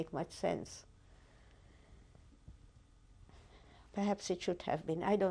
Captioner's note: pauses for 3 seconds